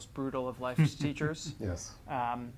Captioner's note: chuckling